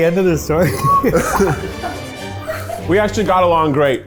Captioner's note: all laugh